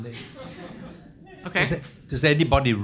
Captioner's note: audience laughs